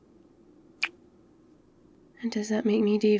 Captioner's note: kiss